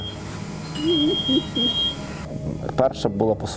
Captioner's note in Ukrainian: плаче